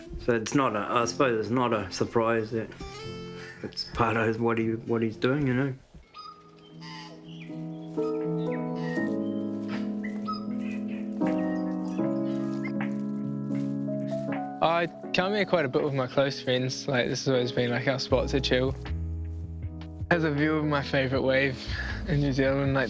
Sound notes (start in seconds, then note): 6.0 tui screeches; 7.9 soft piano music